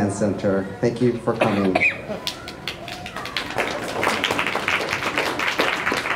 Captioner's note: applause